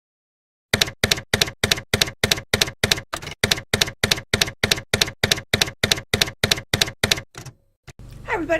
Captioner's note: typewriter keys clacking